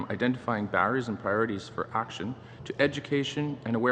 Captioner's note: speaking english